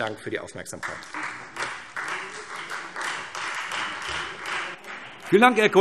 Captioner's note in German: Beifall